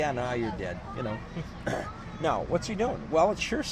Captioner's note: laughs